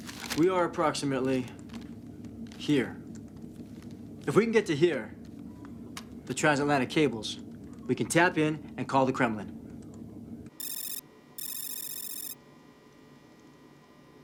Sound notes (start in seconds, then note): 10.6 alarm